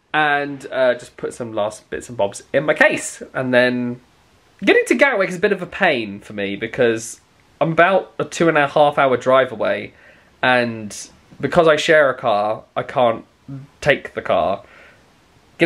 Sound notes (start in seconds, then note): none